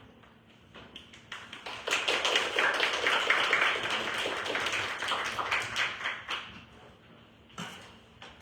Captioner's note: applause